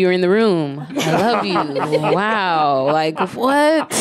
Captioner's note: audience laughs